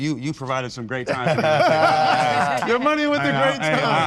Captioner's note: all laugh